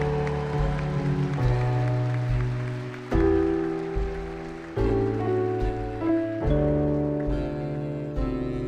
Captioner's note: audience applauding